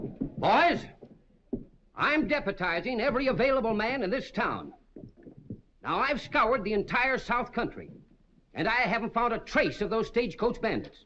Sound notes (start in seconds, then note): none